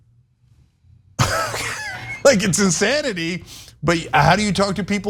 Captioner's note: laugh